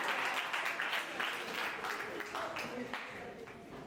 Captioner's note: crowd chattering